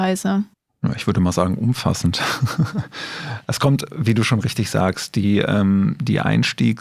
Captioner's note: laughs